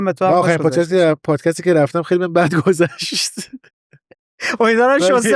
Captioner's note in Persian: خنده